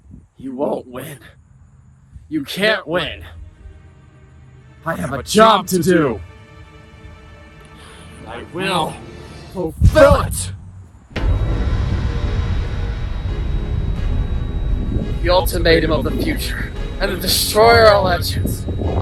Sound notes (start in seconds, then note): 4.1 music builds; 10.4 ringing; 13.7 rumbling